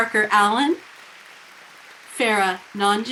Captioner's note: people cheering